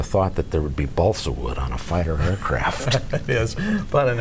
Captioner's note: laughing